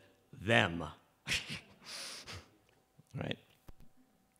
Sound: chuckles

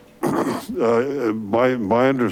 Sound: clears throat

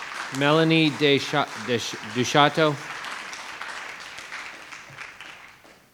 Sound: attendees applauding

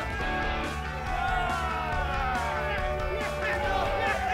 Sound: cheering

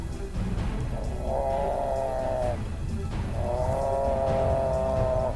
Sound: buffalo moans

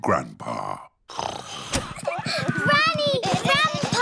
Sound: snoring

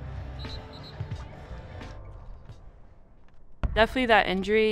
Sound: whistle blows

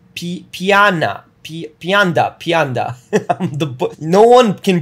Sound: laughs

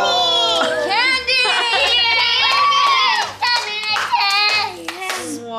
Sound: clapping noises

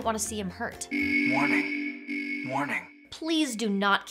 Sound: buzzer blaring

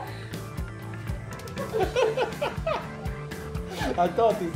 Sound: laughs

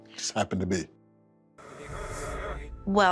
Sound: speaking distortedly

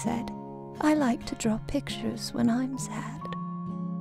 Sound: voiceover

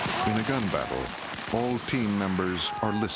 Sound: voiceover

